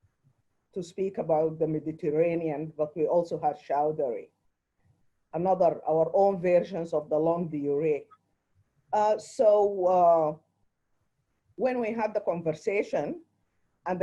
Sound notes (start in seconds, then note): 6.8 speaks foreign language